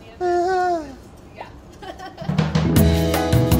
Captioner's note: laughter; upbeat music